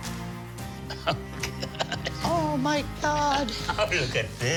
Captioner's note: laughing